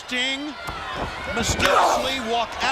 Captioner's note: crowd cheering